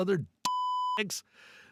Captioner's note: beep